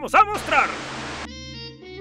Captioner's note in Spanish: Estática